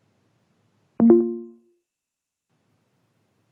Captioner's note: dings